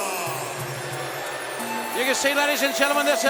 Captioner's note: audience jeers